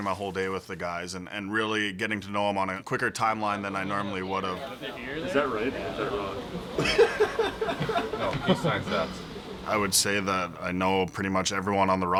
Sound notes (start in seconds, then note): 5.9 laughter